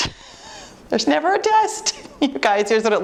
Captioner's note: chuckling